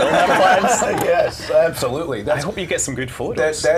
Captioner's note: laughter